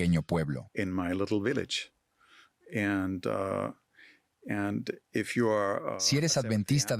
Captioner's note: Hablando idioma extranjero